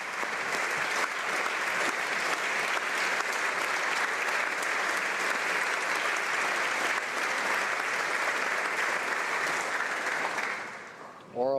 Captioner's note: applause